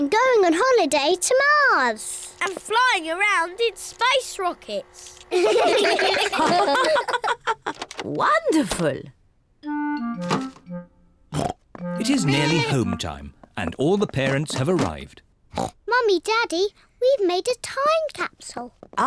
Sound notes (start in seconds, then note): 5.3 all laugh; 15.5 oinks